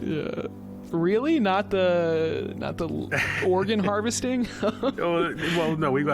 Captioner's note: laughs